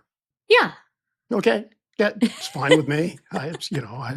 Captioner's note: chuckling